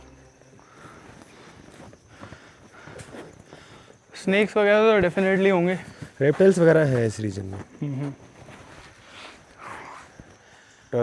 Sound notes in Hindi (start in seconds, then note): 2.5 हांफने की आवाज़